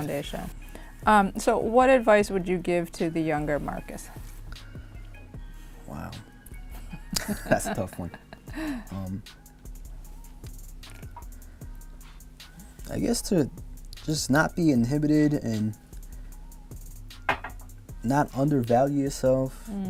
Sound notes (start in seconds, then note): 6.8 laughs; 17.3 glass clanks